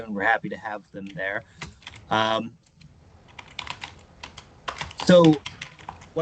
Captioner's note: typing sounds